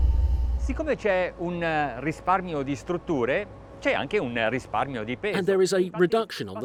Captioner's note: speaking in foreign language